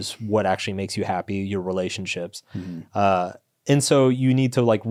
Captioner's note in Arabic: none